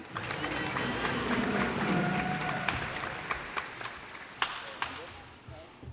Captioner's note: cheers and applause